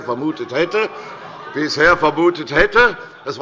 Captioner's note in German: Heiterkeit und Zurufe von der CDU